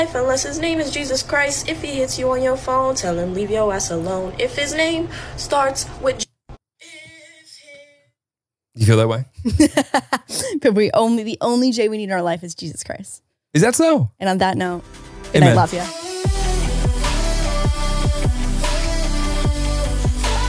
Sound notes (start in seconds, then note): 9.4 laughs; 15.2 upbeat music